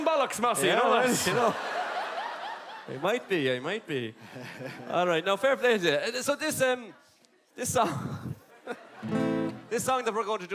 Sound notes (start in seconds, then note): 7.5 laugh